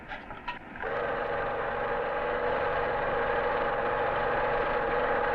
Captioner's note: projector whirring